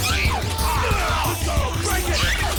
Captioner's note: grunting